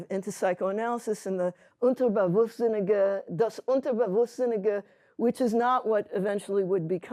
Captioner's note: speaking yiddish